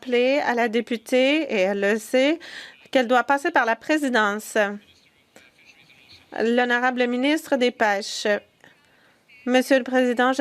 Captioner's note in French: voix de l'interprète